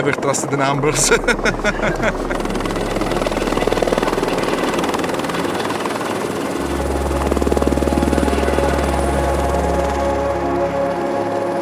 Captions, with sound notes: Never trust the numbers (laughs). (helicopter whirs) (gentle music continues)